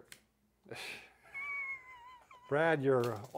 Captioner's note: chuckling